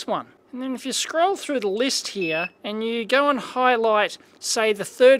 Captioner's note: beep